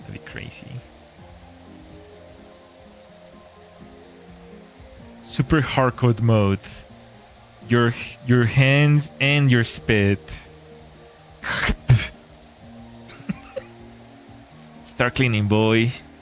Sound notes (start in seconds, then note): 13.1 laughter